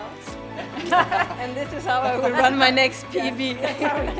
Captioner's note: laughs